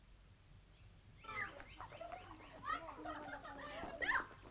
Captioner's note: girls clamoring